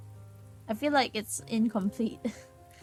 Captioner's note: laughs